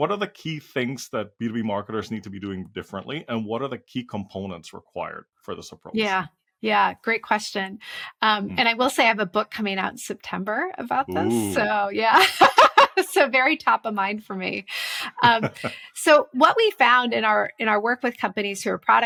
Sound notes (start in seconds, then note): 12.2 laugh